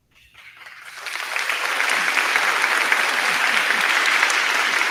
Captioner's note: crowd clapping